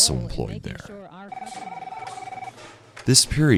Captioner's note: phone ringing